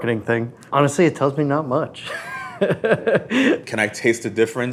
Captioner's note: laughs